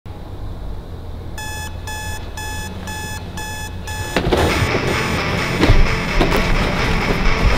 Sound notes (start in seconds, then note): 1.3 alarm ringing; 4.7 upbeat rock music